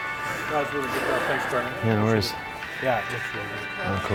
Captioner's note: chatter